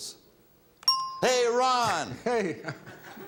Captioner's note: bell chimes; audience chuckles